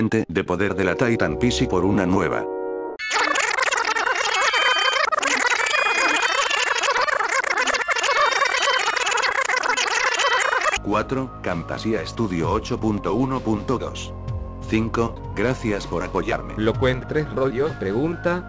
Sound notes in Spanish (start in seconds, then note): 3.0 Sonido de rebobinado